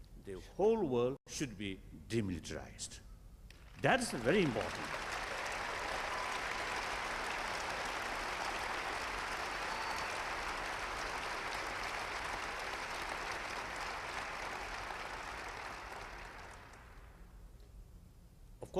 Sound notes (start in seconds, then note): 9.5 applause